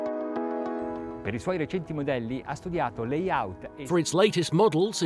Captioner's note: speaking in a foreign language